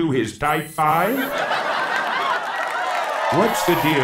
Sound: audience laughing

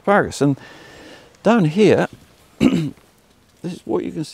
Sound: coughs

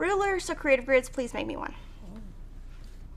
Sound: murmurs

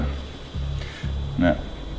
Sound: inhale

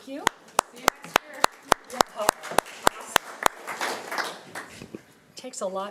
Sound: audience applauding

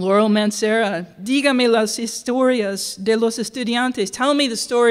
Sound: speaking spanish

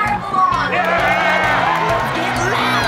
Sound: cheering, music playing

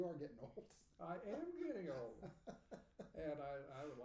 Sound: laughing

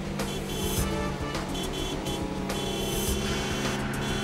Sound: horn beeping

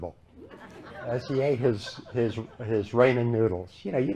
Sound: laughter

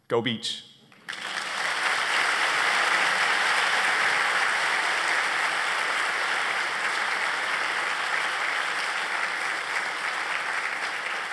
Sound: applause

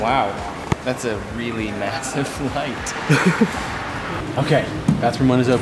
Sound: laughing

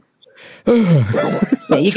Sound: sighs

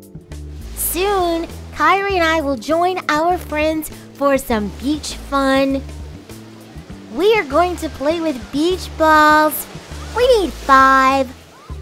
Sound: beach sounds and waves crashing

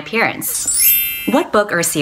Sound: chime

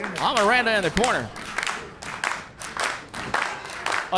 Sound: crowd clapping

